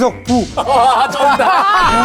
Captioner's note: ding-ding